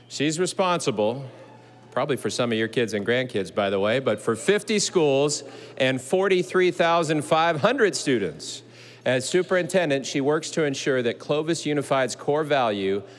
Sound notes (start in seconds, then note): none